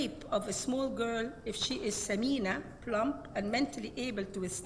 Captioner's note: speaks Arabic